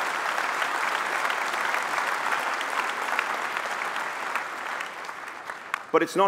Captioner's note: applause